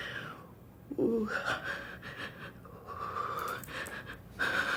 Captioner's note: heavy breathing